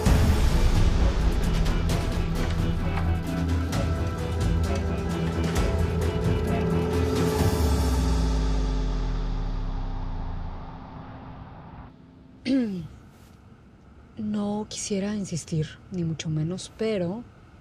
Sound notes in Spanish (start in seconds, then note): 12.3 Se aclara la garganta